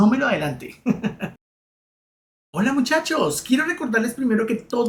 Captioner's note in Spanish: risas